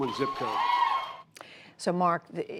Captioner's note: cheering and applause